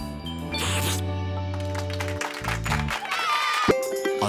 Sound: clapping

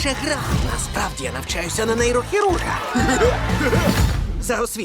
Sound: silly laugh

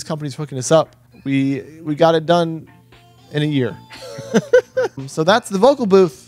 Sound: laughs

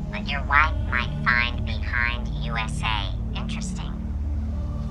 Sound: phone distorted voice

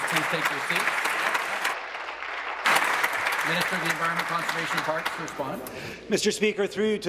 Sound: applause

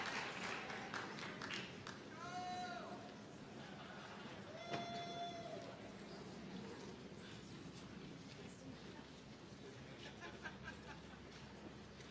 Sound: applause

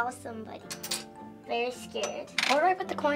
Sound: quarter clanking

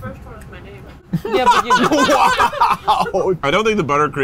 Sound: laughing

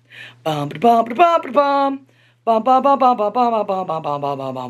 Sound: vocalizes a fanfare

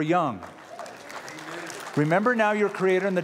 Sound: applause

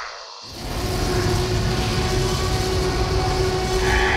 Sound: Tyrannosaurus Roars in distance

